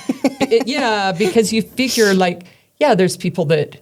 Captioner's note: laughs